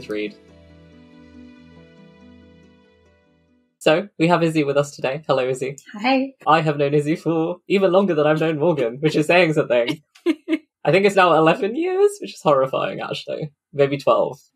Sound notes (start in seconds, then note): 0.0 theme music fades out; 8.3 laughs